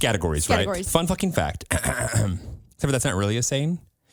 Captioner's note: clears throat